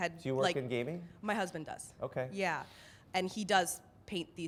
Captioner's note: voiceover